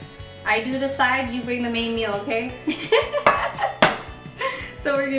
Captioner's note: laughing